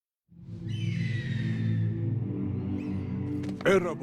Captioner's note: eagle screaming